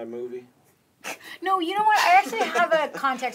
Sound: Jay laughs

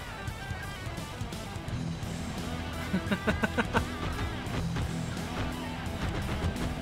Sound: laughter

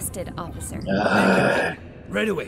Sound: sighs disgustedly

